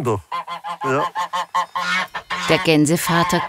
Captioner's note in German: Lautes Schnattern